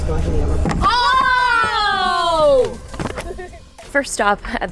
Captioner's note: women yelling